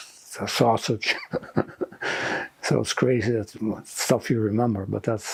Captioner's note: laughing